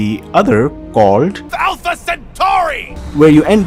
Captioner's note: Garry the Prophet from Cyberpunk 2077 screaming "Alpha Centauri"